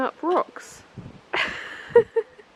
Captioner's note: laugh